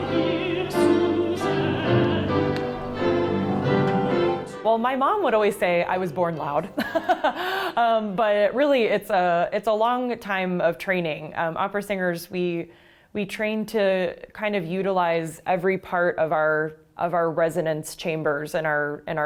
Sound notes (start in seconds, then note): 6.7 laughs